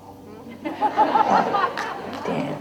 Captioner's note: crowd laughter